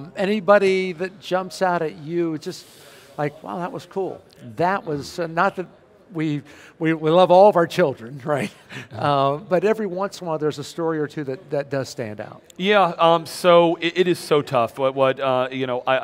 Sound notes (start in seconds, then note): 8.9 laughing